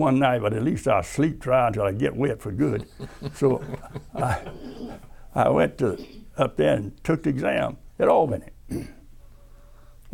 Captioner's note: laughter